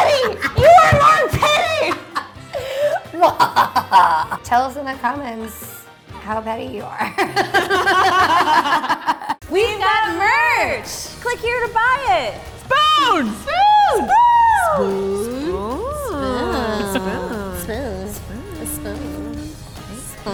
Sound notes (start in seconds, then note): 0.0 shouting and banging fists; 3.1 mock sinister cackling; 7.0 both laughing; 16.3 comical echoing and mimicking